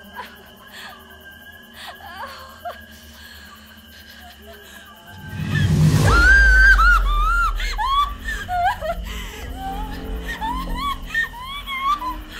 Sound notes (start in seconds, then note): 5.1 dramatic music; 6.0 Allie screams